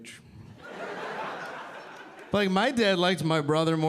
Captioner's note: audience laughing